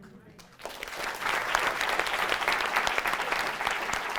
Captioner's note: audience claps